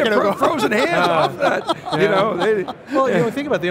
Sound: laughs

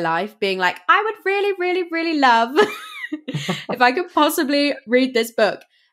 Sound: laughs

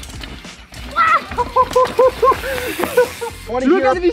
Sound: laughing

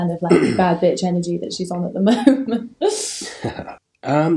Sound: laughing

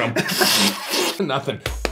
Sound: slurps

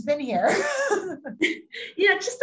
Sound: laughing

